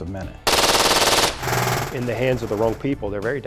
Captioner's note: gun blasting